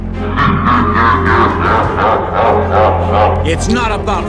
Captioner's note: evil Laugh